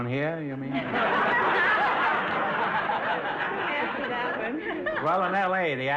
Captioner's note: audience laughter